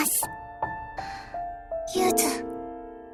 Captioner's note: bated breath